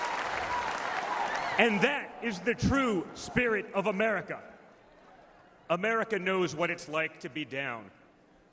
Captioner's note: applause